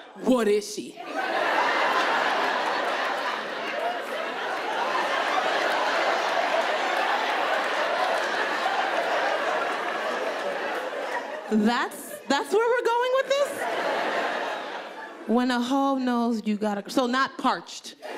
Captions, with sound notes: what is she?" (audience laughing) That's where we're going with this? When a ho knows you got a girl, so not "parched".